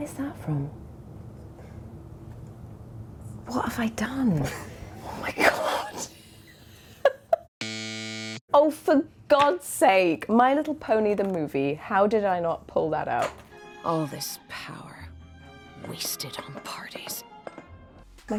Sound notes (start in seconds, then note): 5.9 Emily laughing; 7.6 buzzer buzzing